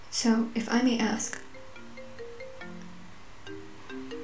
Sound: phone ringing

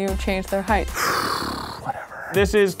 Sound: sighs

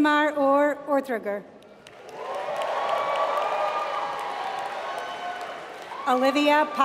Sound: applause

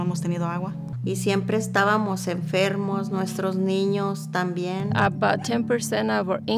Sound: speaking in foreign language

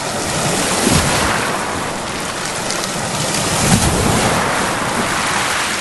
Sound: waves crashing

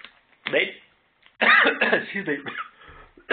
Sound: coughing

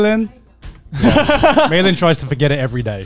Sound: laughing

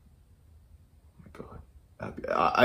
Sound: quietly

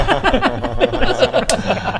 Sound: laughs

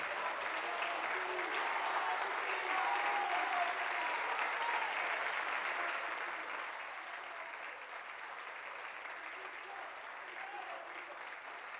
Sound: applause

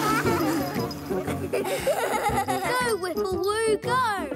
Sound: laughing

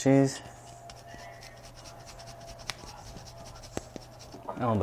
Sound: cheese grating

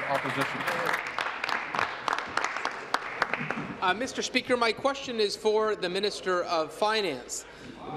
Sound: applause

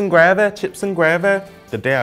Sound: accentuates British accent

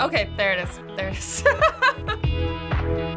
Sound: laughs

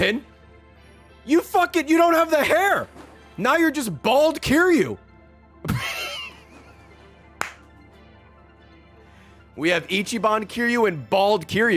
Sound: laughs

